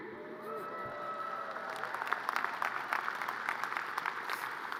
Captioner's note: audience cheers and applause